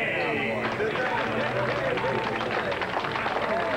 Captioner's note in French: Applaudissements